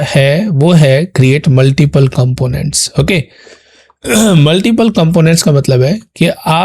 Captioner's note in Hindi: गला साफ़ करने की आवाज़